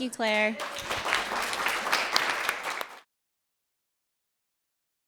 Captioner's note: applause